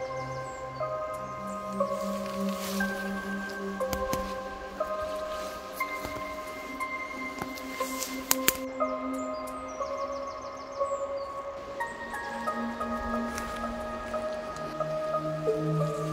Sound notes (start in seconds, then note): 12.7 footsteps